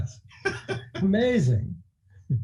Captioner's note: laughing